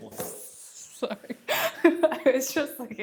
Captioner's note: laughing